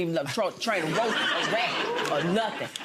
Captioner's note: audience laughing